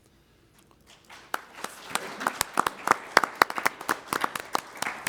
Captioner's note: applause